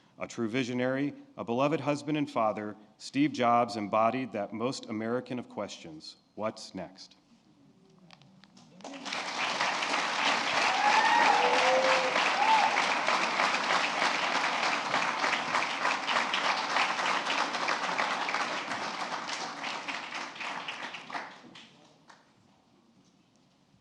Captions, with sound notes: A true visionary, a beloved husband and father, Steve Jobs, embodied that most American of questions. What's next? (Applause.)